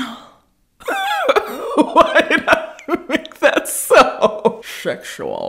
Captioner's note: laughing